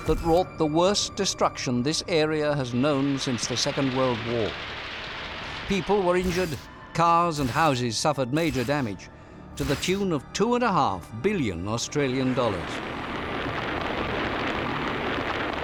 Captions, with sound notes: that wrought the worst destruction this area has known since the Second World War. -[camera shutter] -People were injured, cars and houses suffered major damage, to the tune of two and a half billion Australian dollars. [beating hail]